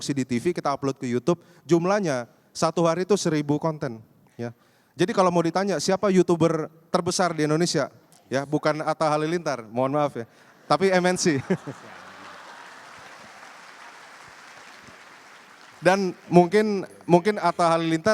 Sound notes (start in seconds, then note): 11.2 applause